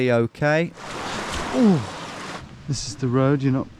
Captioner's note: grunting